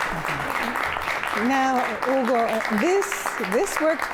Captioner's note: applause